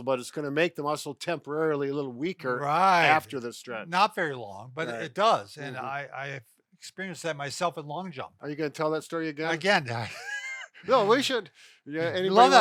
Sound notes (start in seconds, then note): 10.0 laughs; 12.3 laughs